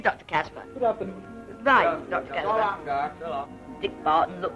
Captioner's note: various farewells